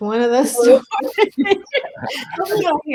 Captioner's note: laughter